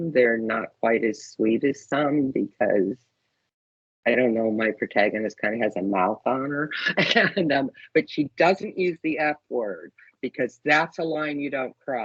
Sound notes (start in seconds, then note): 6.3 chuckling